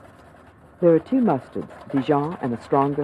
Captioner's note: voiceover